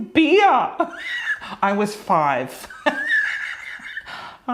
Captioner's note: laughing